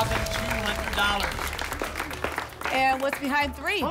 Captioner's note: applause and cheering